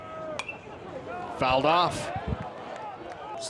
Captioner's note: bat dings